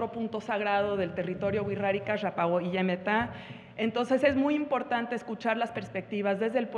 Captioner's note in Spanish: habla en wixárika